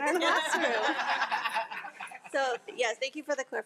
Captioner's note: attendees laughing